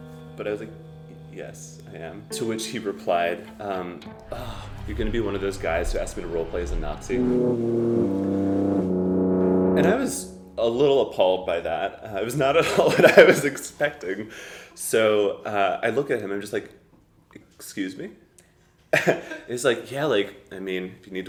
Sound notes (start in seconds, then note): 7.6 ominous music; 12.6 chuckles